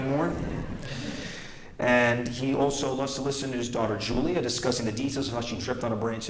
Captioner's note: laughter